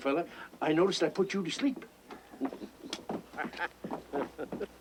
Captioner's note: chuckling